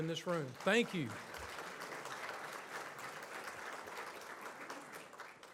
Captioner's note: audience applauds